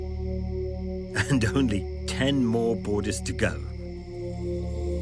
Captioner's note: chuckles